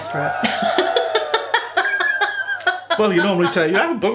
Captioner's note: cheerin